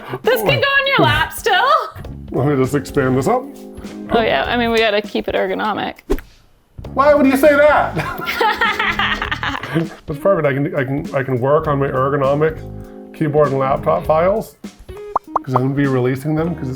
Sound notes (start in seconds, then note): 6.0 graphic swoosh; 7.9 both laughing